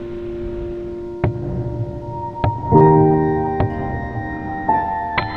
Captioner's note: hammering; gentle music